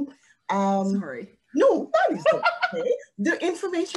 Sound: laughing

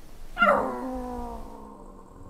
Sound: howl

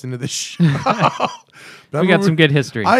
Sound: laughter

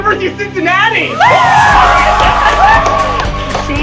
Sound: cheering

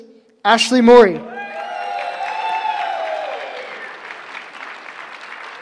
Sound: cheering

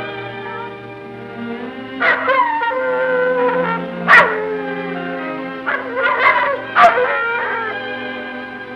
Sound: howling

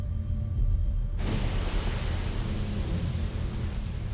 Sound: geyser exploded

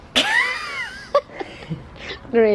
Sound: laughter

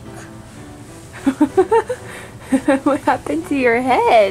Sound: mom laughing

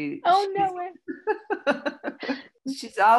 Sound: laughs

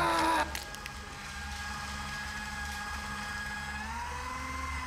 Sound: shredder whirring

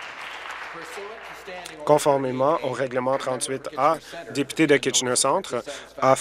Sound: applause

